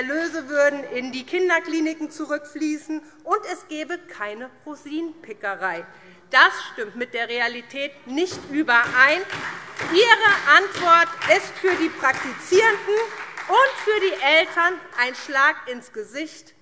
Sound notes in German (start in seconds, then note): 8.8 Beifall SPD